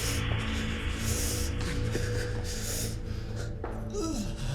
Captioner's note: Stewart groaning